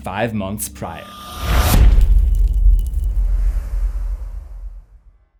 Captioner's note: impact